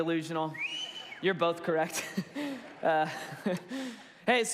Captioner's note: laughs